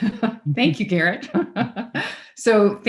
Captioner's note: speaks faintly and laughs; laughs